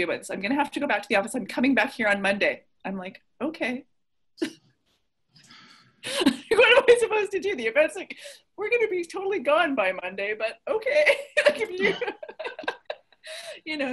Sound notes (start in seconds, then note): 4.8 laughs; 11.4 everyone laughs